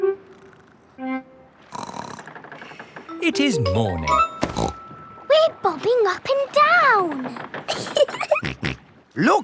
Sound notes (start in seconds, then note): 1.7 snorts; 4.6 snorts; 7.7 giggling; 7.9 snorts